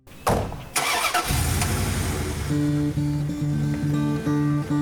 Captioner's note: engine rumbling; upbeat guitar music